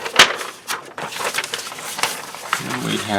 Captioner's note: paper rustling